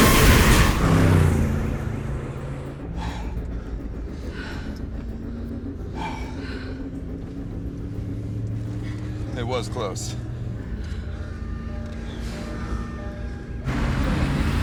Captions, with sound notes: (metal crashing) (car revving) (alarm blaring) (all panting) (tense music) - It was close. (sirens blaring)